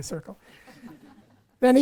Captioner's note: audience laughing